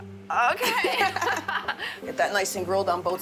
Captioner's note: both laughing